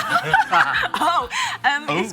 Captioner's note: laughs